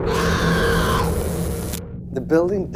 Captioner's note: screaming